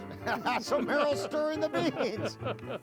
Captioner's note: laughing